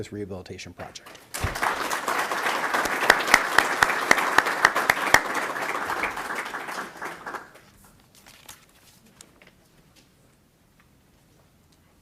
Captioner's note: applause